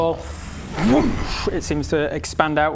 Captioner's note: woosh!